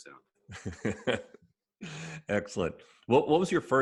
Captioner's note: laughs